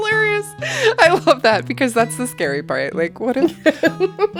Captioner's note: laughter